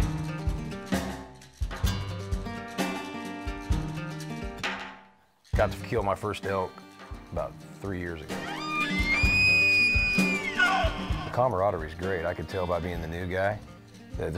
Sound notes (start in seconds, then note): 0.0 blues music; 8.4 elk bugles